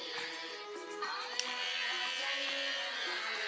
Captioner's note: razor turning on